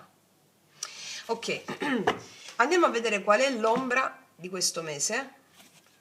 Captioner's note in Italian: schiarire la voce